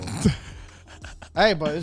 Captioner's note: laughs